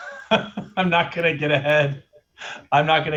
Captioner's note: laughter